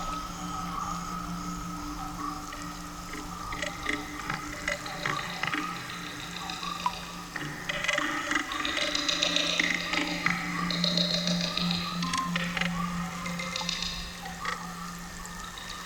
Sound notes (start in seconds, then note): 0.0 animals chirping continues; 0.0 water dripping; 5.2 animals chirping continues; 5.2 water dripping; 15.1 animals chirping continues; 15.1 water dripping